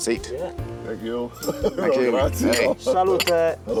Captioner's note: laughs